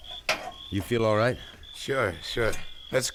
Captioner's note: metal clanking